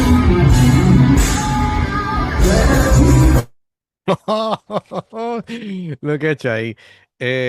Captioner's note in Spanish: risas